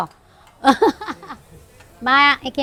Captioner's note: laughs